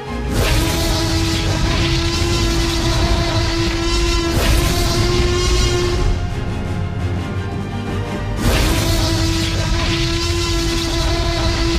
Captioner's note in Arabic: T-Rex يواصل الزئير بصوت عالٍ